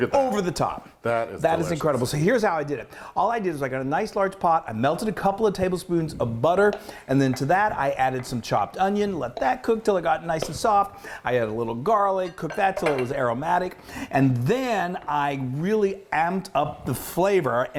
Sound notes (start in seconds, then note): none